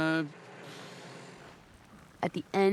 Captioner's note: exhales